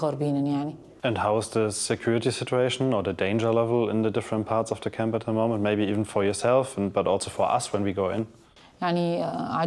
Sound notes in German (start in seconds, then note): 0.9 englisch